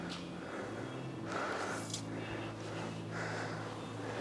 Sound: panting

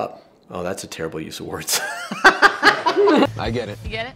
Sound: laughs

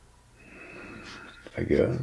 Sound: he exhales

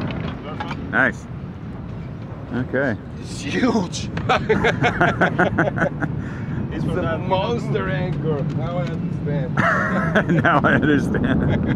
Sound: laughs

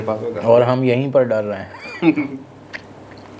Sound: laughs

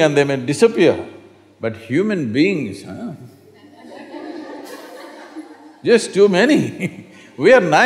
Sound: laughter

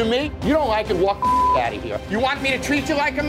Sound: beep

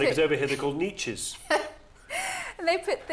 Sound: aide laughing

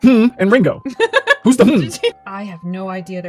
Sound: hmm

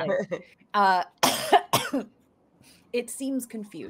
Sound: coughs

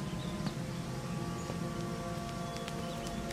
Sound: footsteps

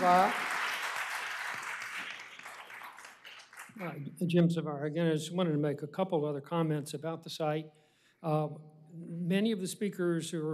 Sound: applause

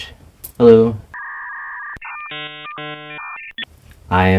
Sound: dial up internet sound

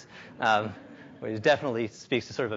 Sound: audience laughs lightly

